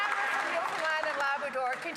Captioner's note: some Applause